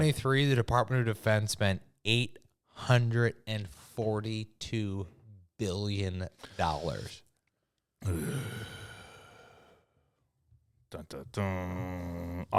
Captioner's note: sighs